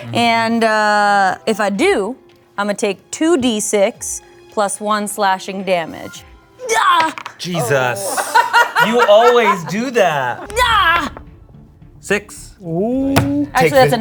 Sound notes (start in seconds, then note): 6.6 yelling; 8.0 laughing; 10.5 yelling